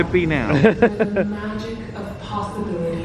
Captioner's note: laughing